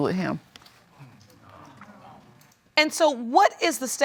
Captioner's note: audience exclaims softly